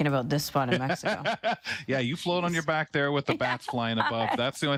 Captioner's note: laughs